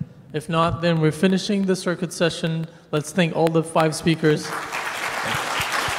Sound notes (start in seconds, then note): 4.4 applauding